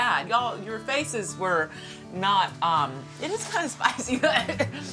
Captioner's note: coughs